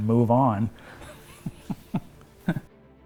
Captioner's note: chuckles